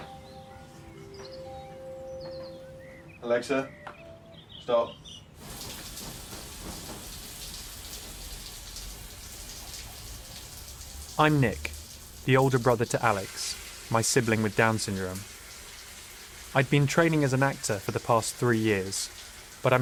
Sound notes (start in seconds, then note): 0.0 gentle music; 6.1 water trickling